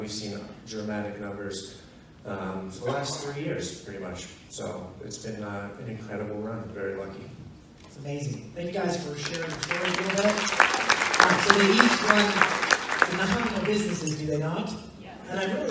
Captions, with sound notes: and we've seen dramatic numbers for the last three years, pretty much. So it's been an incredible run, very lucky. - That's amazing, thank you guys for sharing. (applause drowns out speech) So they each run the Muhammad of businesses, do they not?